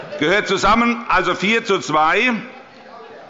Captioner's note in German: Heiterkeit bei der SPD